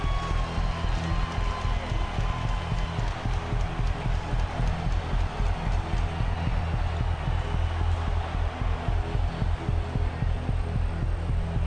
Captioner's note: cheering